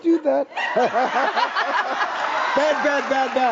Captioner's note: everyone laughing